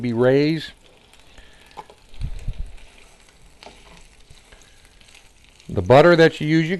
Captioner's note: silence